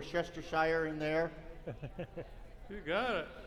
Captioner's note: laughter